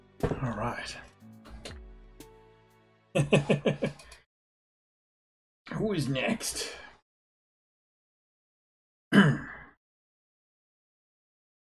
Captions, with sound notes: All right. [laughs] Who is next? [clears throat]